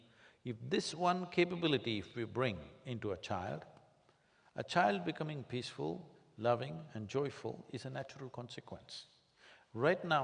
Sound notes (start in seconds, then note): none